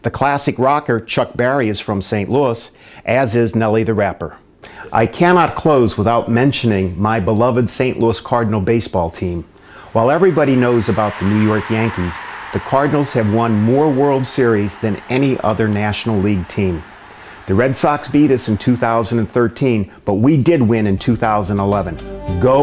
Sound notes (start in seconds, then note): 9.2 stadium cheers